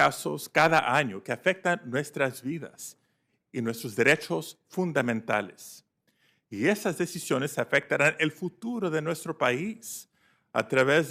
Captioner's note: speaking spanish